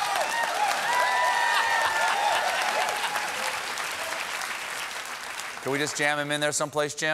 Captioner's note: cheers and applause